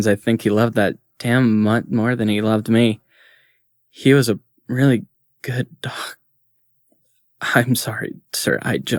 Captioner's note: shaky voice, verge of crying